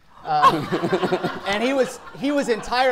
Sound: audience laughing

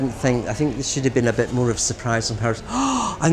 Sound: gasp

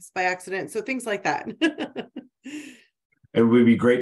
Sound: laughs

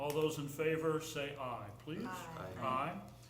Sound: chorus of ayes

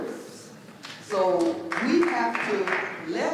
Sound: clapping

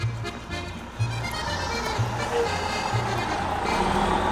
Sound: bus rumbling

